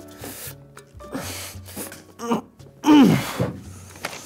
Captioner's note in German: stöhnt